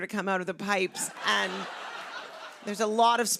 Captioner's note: laughter